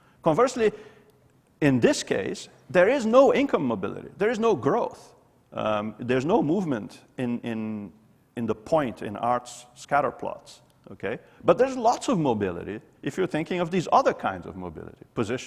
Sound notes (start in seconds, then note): none